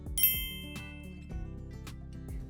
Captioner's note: clinks